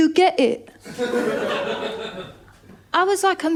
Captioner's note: laughter